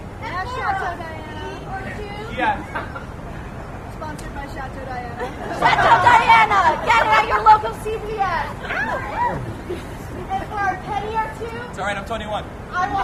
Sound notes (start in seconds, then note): 5.2 laughter